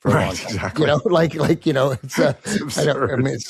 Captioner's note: laughs